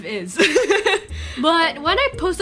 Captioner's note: laughs